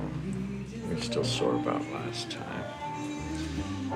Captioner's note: Richard breathing uneasily